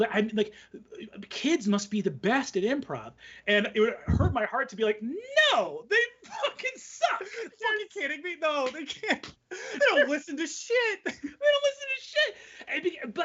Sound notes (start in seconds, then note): 6.0 laughing